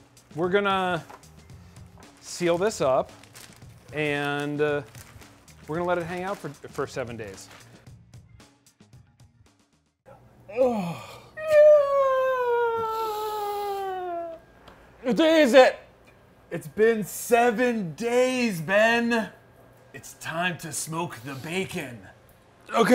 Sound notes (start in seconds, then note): 7.2 upbeat music; 10.5 yawning and groaning